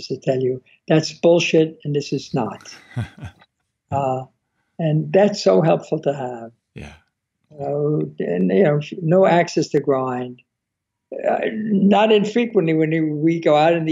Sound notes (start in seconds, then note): 2.4 laughing